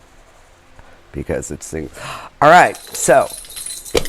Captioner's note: bells ringing